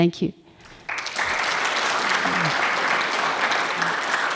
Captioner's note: audience clapping